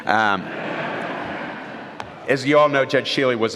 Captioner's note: laughter